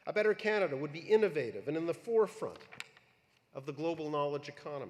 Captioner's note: none